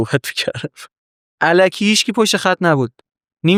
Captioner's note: laughs